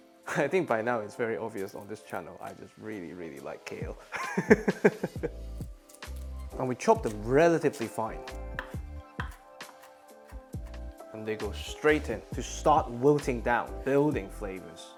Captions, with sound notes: I think by now it's very obvious on this channel I just really, really like Kale. [laughs] And we chop them relatively fine. And they go straight in to start wilting down, building flavours.